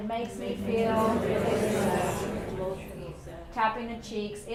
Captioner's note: students speaking all at once